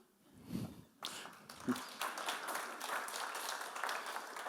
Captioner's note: audience applauds